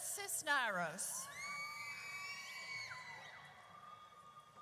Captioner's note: audience cheers